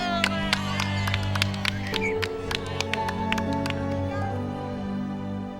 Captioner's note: clapping and cheers